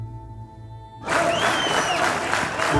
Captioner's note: crowd clapping